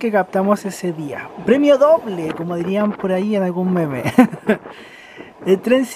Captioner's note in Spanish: risas